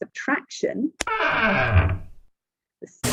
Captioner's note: creaking